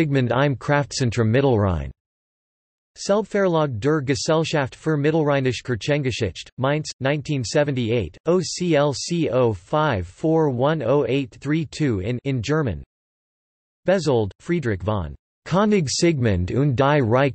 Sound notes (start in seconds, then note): 10.5 in German